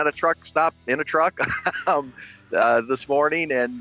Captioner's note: laughs